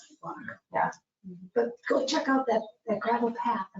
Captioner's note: murmuring